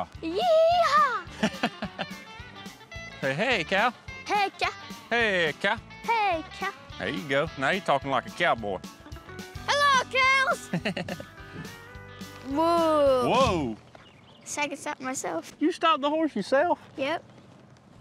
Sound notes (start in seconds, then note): 1.3 chuckles; 9.7 shouts